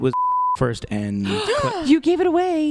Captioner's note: gasps